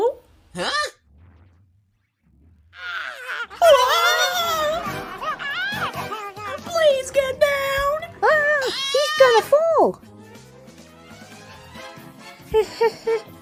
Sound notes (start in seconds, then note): 2.2 Komasaburo exclaims; 2.8 all exclaim; 8.2 Komajiro yells